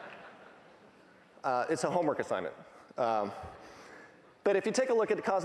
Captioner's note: laughing